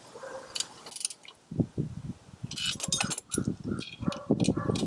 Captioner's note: metal clanging